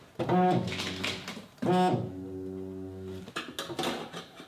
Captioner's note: printer droning